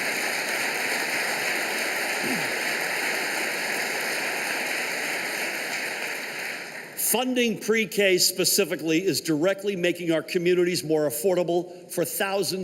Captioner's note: applause